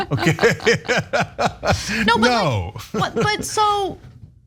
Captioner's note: laugh